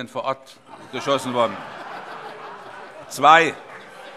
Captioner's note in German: Heiterkeit - Zuruf